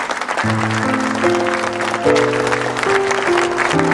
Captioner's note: applause